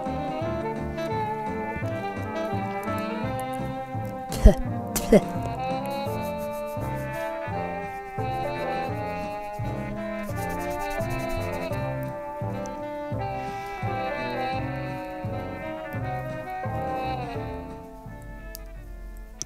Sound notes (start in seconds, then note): 3.7 fluff in mouth noises; 5.8 hands rubbing together; 7.9 needles clicking